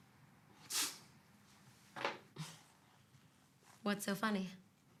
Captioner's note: Noah scoffs